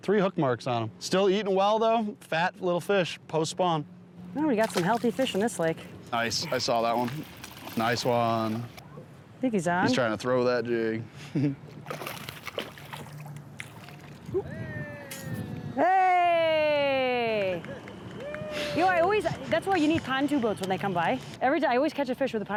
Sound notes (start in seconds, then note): 11.3 giggles; 11.8 fish plops; 15.4 fellow fisherman laughs; 17.3 fellow fisherman claps; 18.1 fellow fisherman cheers